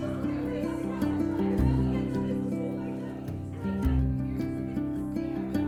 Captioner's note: guests talking gleefully